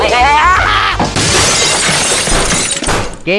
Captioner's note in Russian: звук разбитого стекла